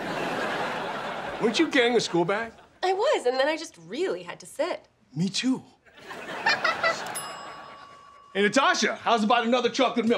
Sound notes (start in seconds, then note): 6.0 laughing, dinging